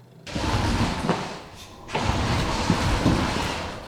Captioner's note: scraping